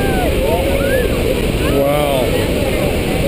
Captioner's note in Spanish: más aplausos